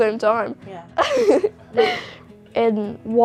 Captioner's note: laughter